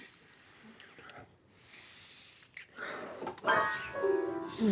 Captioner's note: lips smacking; piano keys banging